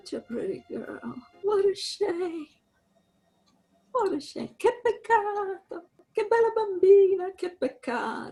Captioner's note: excitedly; in Italian